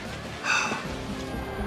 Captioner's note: sighs